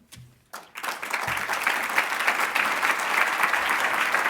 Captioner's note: applauding